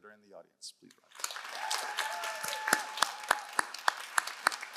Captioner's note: all applauding